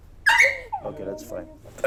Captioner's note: dog yipping